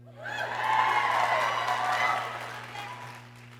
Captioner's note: people cheering